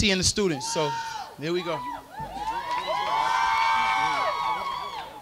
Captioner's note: crowd cheering